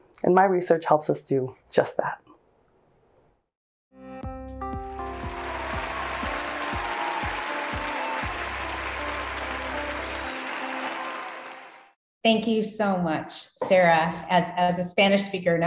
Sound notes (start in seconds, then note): 4.2 upbeat music; 5.0 audience applauding